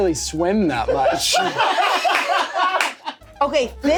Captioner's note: everyone laughs